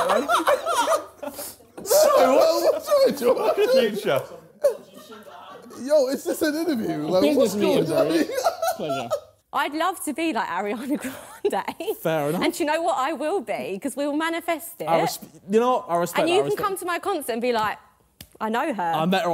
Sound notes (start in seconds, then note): 8.6 laughing